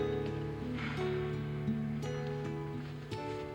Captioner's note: sighs